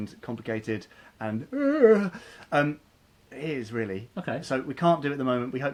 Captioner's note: yawning